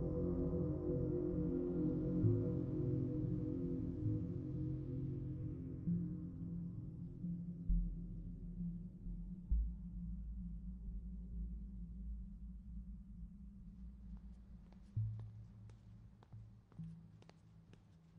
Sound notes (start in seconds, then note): 12.4 footsteps